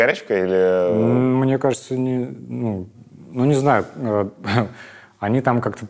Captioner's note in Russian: усмехается